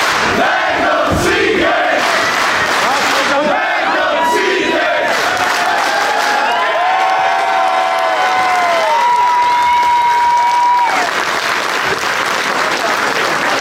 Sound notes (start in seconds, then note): 0.0 clapping; 3.3 crowd whooping